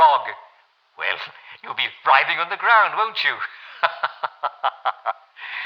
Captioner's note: laughs